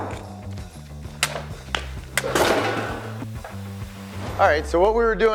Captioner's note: gunfire popping; blow smacking